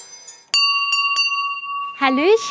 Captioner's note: bell rings